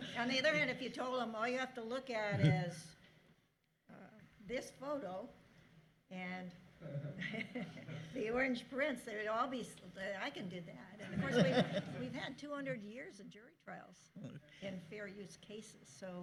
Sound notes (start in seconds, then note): 6.8 chuckling